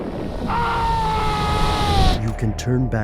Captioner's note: screams; voiceover